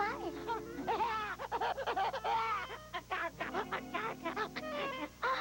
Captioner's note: baby crying